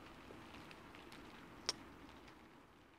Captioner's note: kiss